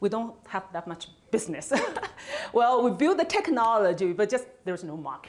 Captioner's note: laughs